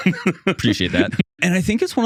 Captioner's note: laughing